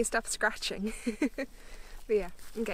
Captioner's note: laughs